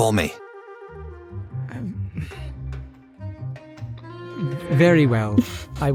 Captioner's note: sighs